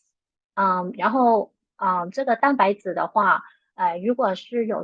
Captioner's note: speaking chinese